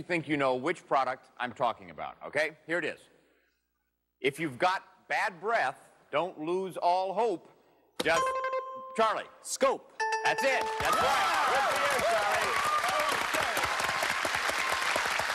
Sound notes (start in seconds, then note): 8.0 dings; 12.7 cheers and applause